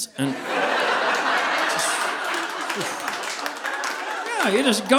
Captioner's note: audience laughing